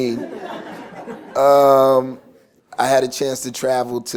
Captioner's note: laughter